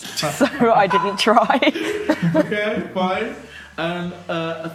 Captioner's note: laughing